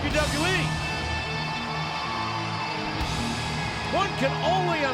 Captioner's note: audience cheers